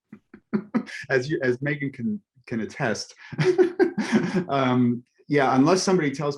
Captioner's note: laughs